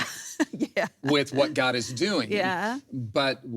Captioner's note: laughs